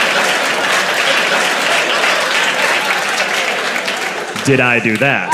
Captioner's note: applause; crowd laughs